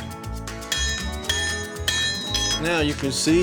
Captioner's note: hitting